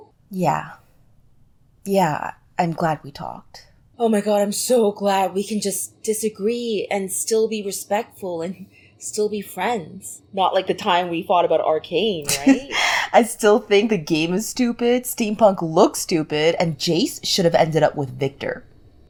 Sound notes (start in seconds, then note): 12.2 chuckles